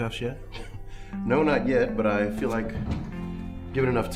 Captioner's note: laughs